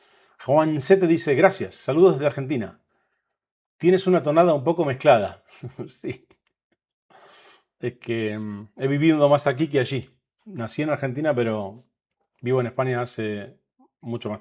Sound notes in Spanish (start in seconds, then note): 5.4 risas